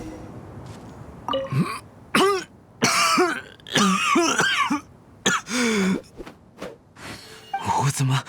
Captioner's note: coughing